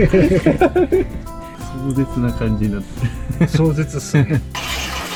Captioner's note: laugh